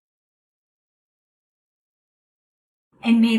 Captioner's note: silence